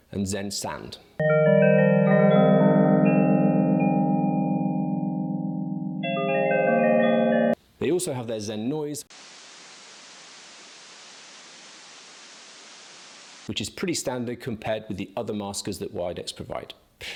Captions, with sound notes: and Zen sand. (chimes chiming) They also have their Zen noise. (static blaring) Which is pretty standard compared with the other maskers that Widex provide.